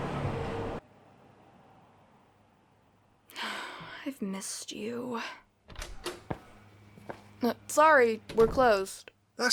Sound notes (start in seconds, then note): 3.3 sighs